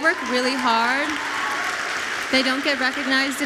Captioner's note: audience applauds